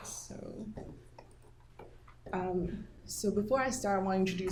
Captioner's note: mouse clicking